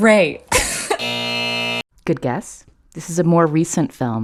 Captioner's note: soundbite of buzzer